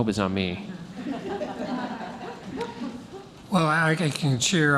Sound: laughing

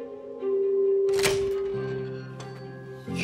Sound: clicks open

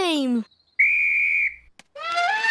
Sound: blows whistle; trumpets

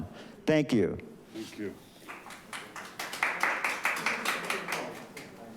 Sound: audience applauding

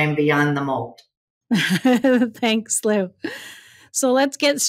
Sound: laughs

